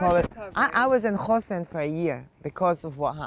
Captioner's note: hebrew